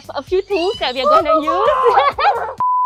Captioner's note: scream